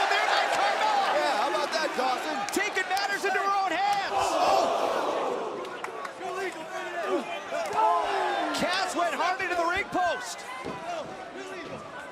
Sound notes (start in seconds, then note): 5.8 crowd cheering; 6.7 crowd chatter; 11.9 crowd chatter